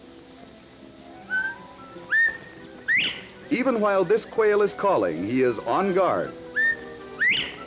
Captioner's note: quail Call